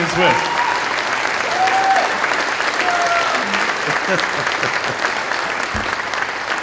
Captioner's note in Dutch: Gejuich, applaus